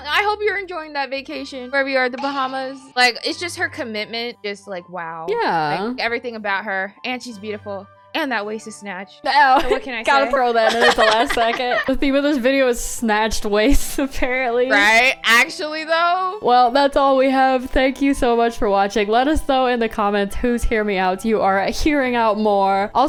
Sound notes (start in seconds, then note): 10.1 laughs